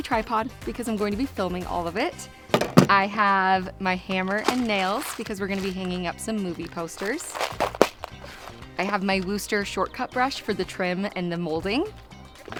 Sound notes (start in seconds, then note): 2.5 tripod thumping; 7.1 nails rustling